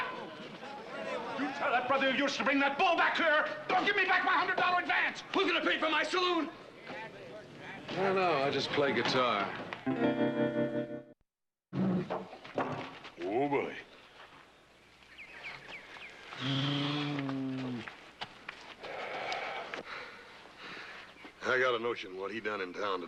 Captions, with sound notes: YOU TELL THAT BROTHER OF YOURS TO BRING THAT BULL BACK HERE OR GIVE ME BACK MY $100 ADVANCE! WHO'S GOING TO PAY FOR MY SALOON?! I DON'T KNOW-- I JUST PLAY GUITAR. WHOA, BULLY. ( lowing ) I GOT A NOTION WHAT HE DONE IN TOWN TODAY